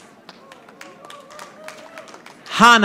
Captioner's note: audience applauding